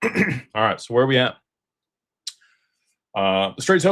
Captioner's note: clears throat